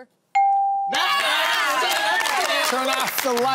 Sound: cheering

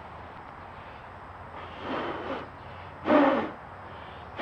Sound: blows

